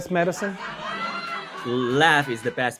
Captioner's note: audience laughing